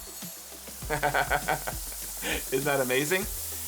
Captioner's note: laughter